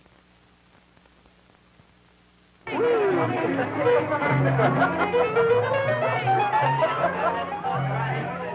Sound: chatter

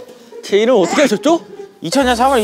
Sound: startled

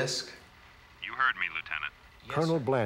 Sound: on phone

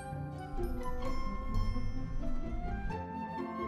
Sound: screaming inside

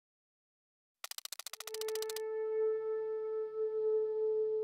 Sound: typewriter; pensive music

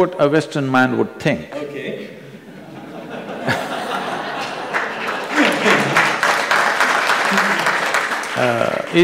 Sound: laughter/Applause

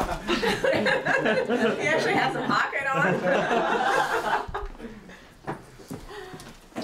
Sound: laughter; laughter

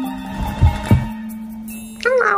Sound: thump thump

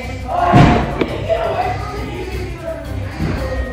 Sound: players shouting

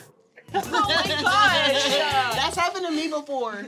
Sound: laughing

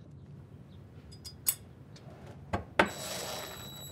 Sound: drilling sounds

